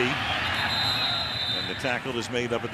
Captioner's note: whistle blows